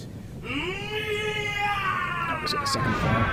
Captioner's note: war scream